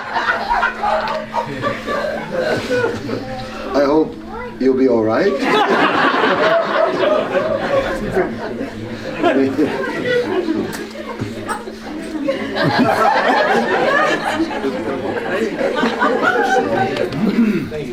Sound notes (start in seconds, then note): 11.1 laughter